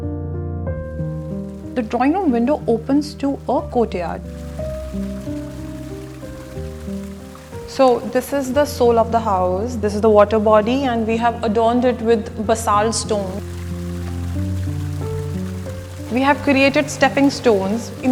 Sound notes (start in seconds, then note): 0.6 water pouring in the courtyard; 4.4 water pouring in the courtyard